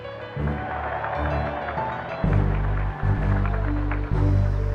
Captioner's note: applause